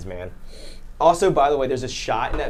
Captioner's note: sniffs